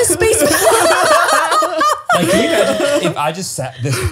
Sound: all laughing

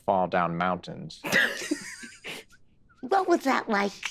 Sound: group laughing

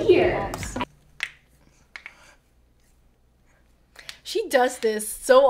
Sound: cracking knuckles

